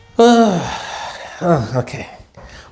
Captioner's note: sighs